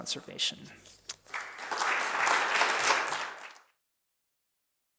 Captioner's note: applause